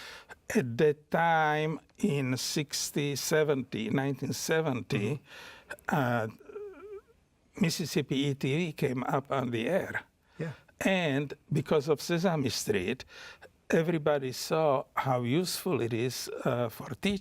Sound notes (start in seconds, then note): none